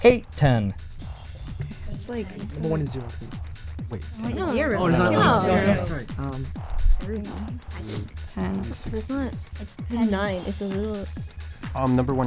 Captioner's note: wispering